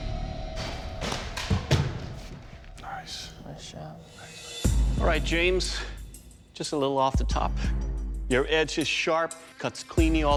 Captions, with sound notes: (WHISPERING) Nice. Nice job. (WHISPERING) Thanks. All right, James-- just a little off the top. Your edge is sharp, cuts cleanly all the way